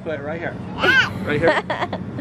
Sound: laughter

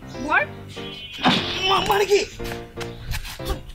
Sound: splat!

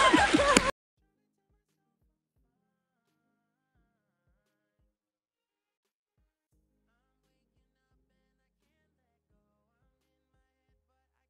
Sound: silence

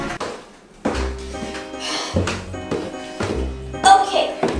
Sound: footsteps tapping

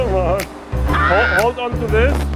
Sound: exclaiming in fear

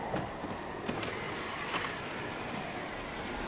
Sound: wind blowing

